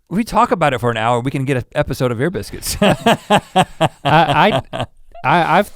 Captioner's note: laughs